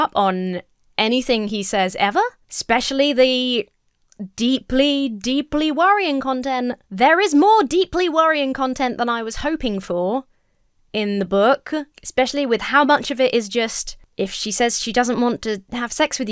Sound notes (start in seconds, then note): none